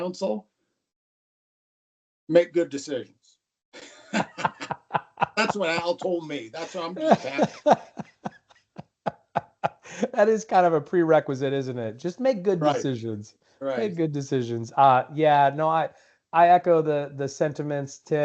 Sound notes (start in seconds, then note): 3.8 laughter